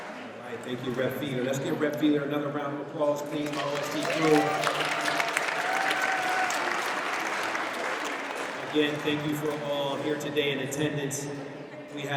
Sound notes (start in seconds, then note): 5.0 audience applauds